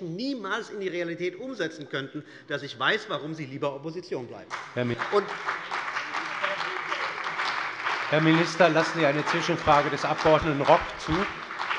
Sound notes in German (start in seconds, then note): 4.5 Beifall bei der CDU und dem BÜNDNIS 90/DIE GRÜNEN